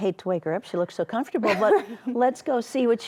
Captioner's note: laughs